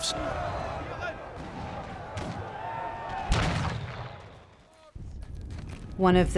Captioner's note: people shouting; gun firing